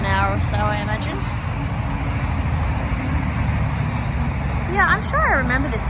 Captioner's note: traffic continues not being quiet